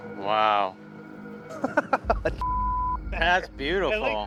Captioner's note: laughs